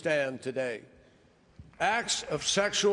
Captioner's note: applause